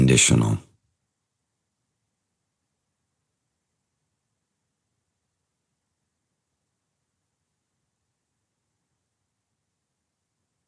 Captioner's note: silence